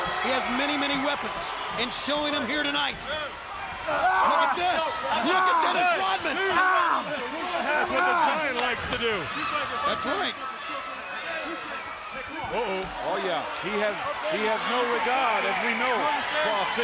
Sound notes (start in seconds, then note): 7.2 Lex groans